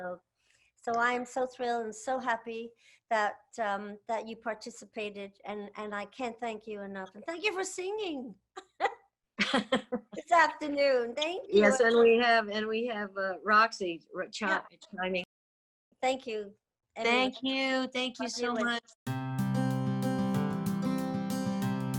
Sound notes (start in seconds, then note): 9.4 chuckles; 19.0 laid back music